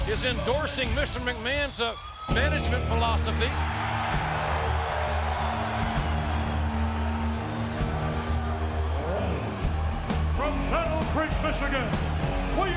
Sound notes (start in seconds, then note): 3.4 crowd cheering; 5.7 ominous music